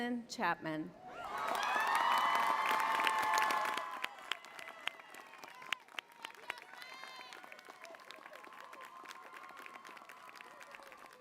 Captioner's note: applause